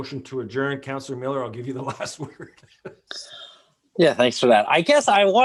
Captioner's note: laughs